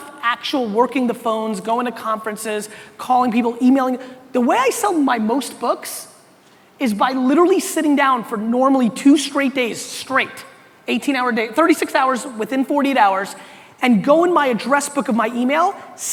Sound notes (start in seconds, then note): none